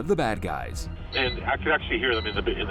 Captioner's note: alarm beeping